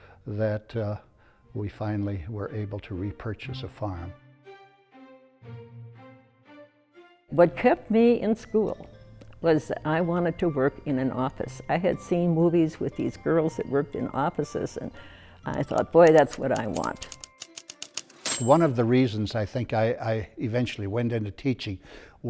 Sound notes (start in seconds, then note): 15.6 typewriter bell dinging; 15.7 typewriter keys clicking